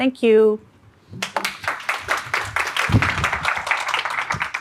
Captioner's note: audience clapping